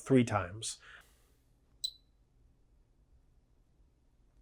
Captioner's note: beeping